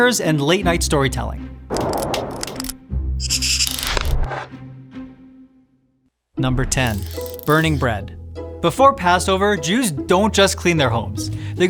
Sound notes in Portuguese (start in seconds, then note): 1.4 música dramática; 1.5 texto tiquetaqueando; 3.3 riscando com lápis